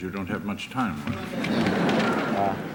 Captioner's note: laughter